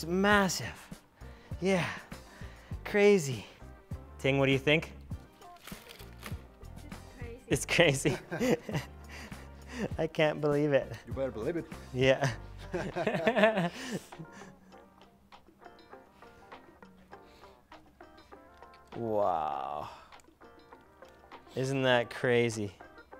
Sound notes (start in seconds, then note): 12.6 laughs